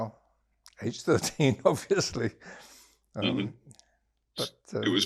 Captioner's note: laughing